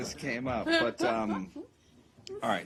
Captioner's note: laughter